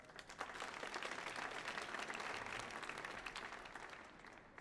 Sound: audience applauds

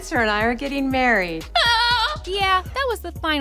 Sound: shrieking

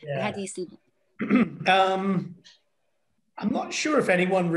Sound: clears throat

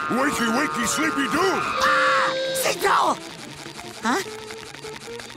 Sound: screaming

